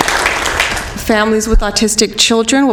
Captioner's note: applause